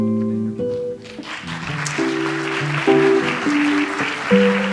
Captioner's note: audience applauds